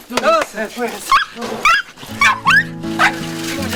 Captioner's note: whimpering